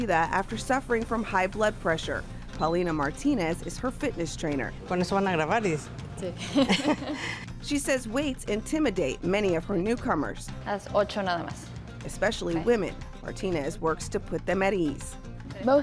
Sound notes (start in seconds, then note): 4.9 speaking in foreign language; 5.8 laughing; 6.1 speaking in foreign language; 10.8 speaking in foreign language